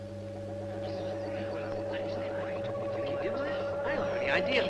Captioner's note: eerie ambient music; people murmuring